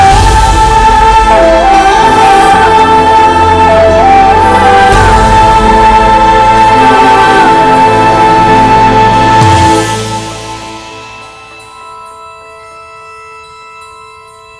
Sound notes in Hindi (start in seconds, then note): none